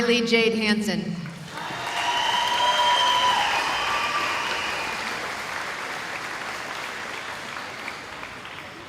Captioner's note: cheering